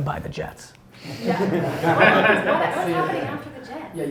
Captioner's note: laughs